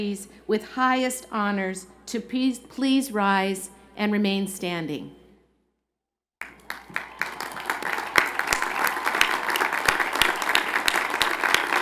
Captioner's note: cheers and Applause